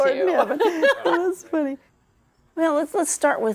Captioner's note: both laughing